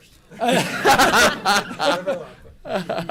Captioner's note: laughter